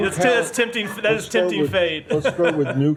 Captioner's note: laughter